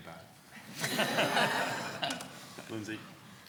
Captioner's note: laughing